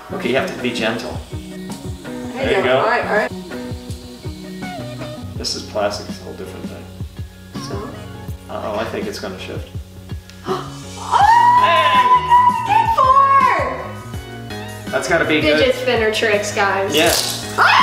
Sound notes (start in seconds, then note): 10.4 gasps